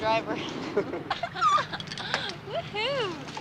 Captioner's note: all laughing